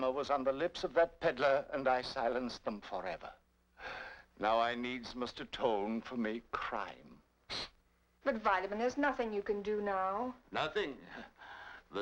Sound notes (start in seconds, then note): 7.6 sniffs